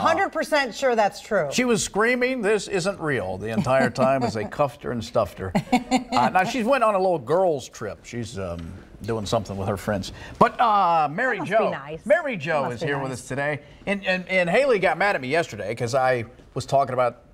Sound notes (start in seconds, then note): 5.5 laughter